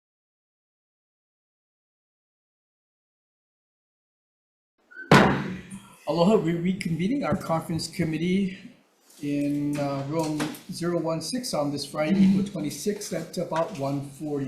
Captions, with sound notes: (gavel bangs) - Aloha, we're reconvening our conference committee in Room 016 on this Friday, April 26th, at about 1:40.